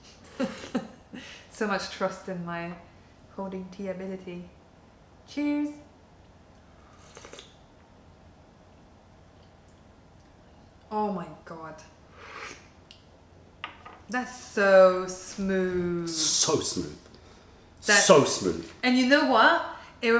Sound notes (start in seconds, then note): 0.2 laughter; 8.6 sips tea